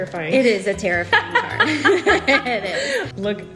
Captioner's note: both laugh